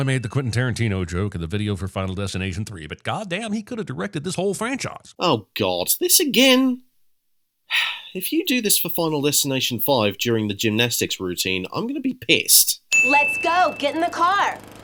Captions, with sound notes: Oh god this again?… *Sigh* If you do this for Final Destination 5 during the gymnastics routine, I’m going to be pissed…